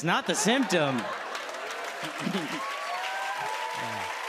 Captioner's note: laughter